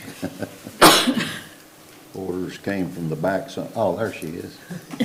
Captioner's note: everybody laughing